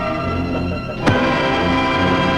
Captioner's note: pipe thumping; suspenseful music